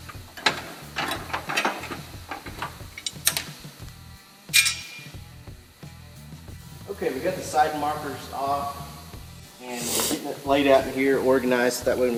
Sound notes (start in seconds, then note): 0.0 parts clanging